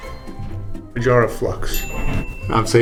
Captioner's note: ding